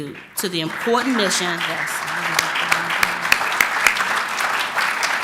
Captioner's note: applause